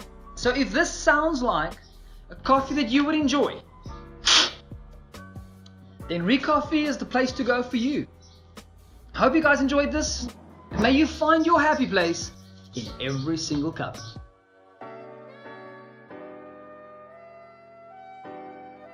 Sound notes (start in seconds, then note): 4.2 slurping